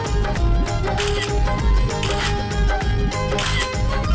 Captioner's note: Camera clicks